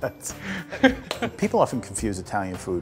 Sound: laughs

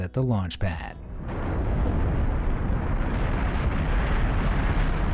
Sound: rocket roaring

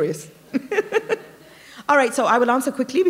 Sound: chuckle

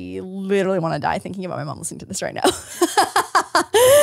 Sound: laughs

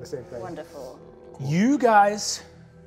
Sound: none

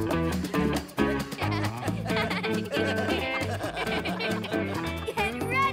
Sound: laughing

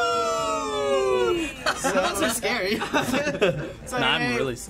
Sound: all laugh

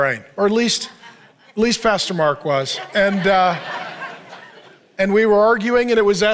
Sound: congregation laughing

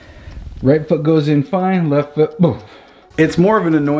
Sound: puffs

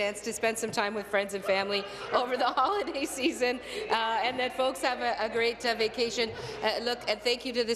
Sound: chuckles

